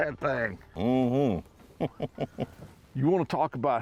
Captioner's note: chuckles